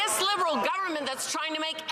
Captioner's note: some Applause